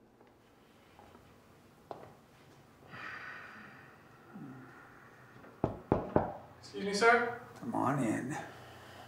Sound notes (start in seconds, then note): 2.9 Josiah sighing; 5.6 knocking at door